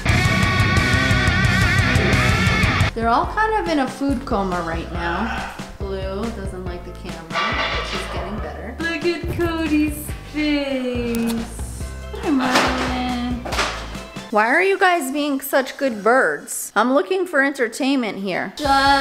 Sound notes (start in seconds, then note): 0.2 heavy metal music; 7.2 loud clanging